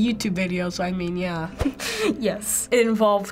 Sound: chuckles

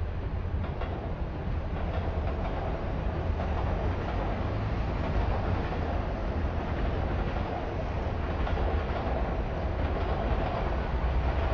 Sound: train Noises

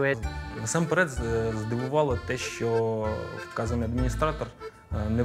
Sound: speaking in Ukrainian

